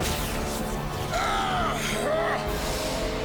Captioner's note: screaming